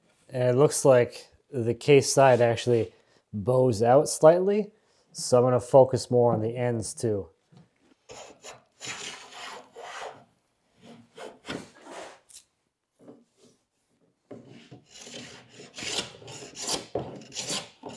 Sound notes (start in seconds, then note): 8.8 wood scrapes